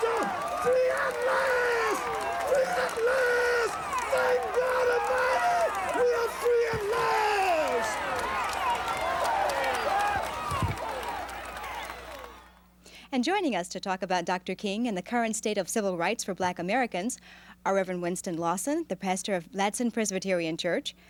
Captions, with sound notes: Free at last! Free at last! Thank God Almighty! We are free at last! (crowd cheering) And joining us to talk about Dr. King and the current state of civil rights for Black Americans are Reverend Winston Lawson, the pastor of Ladson Presbyterian Church,